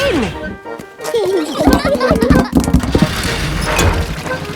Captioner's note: children giggling